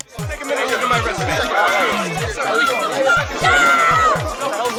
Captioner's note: crowd chattering